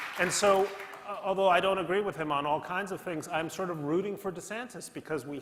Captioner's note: applause